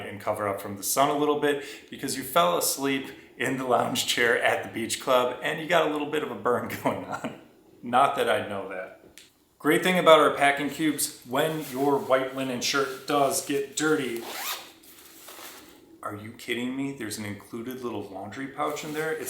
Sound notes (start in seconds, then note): 6.8 chuckles